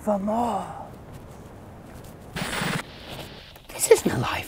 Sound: footsteps crunch; tv static buzzes

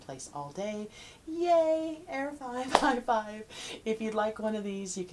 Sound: hands dropping

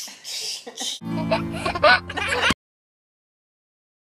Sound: baby laughing

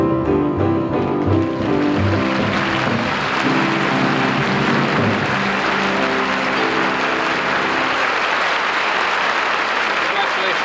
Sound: audience applauding

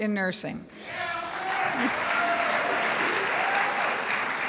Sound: crowd applauds

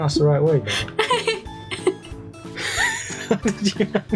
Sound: laughter

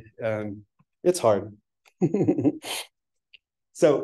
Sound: chuckles

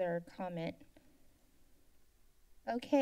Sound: silence

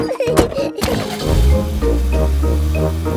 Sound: laughing; car engine starts

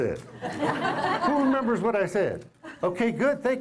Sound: laughter

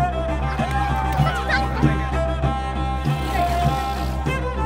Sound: children Laughing

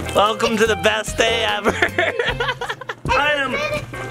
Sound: laughs

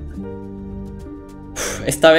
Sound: sighs

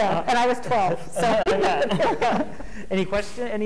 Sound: laughing

